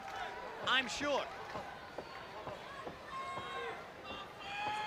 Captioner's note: crowd chatter